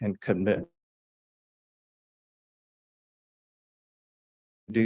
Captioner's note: audio cuts out